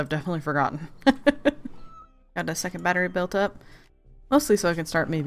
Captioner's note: laughs